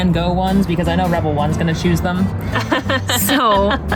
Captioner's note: laughs